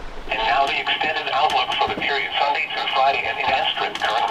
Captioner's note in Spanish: charla de radio